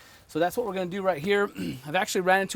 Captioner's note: cough